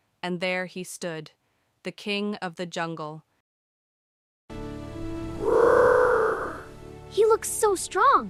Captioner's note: whisper roaring